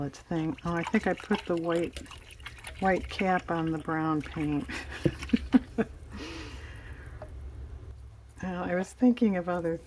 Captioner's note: laughs